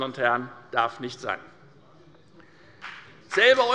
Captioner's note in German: Beifall bei der FDP